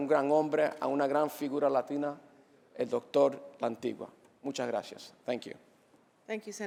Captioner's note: speaking Spanish